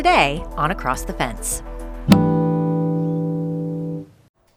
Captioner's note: logo whooshing